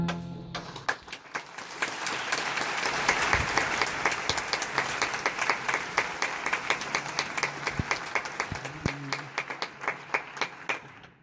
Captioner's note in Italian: applauso